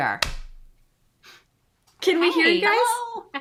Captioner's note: claps